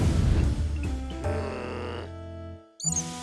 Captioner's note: groans